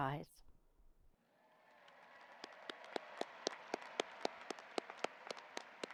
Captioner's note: audience applauding